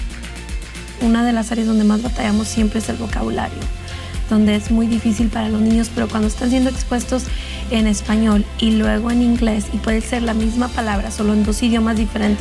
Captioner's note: speaking Spanish